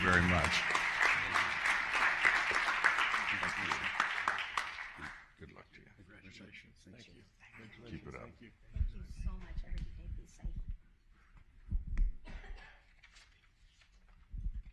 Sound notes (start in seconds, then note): 3.1 applause